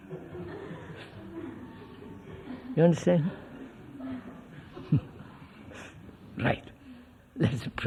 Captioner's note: laughter